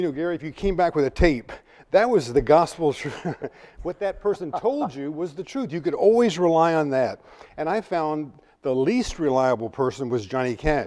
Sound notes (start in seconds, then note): 4.1 chuckles